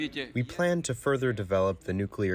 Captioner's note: through translator